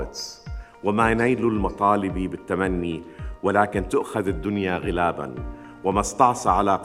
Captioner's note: speaking in foreign language